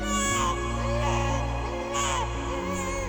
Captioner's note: baby crying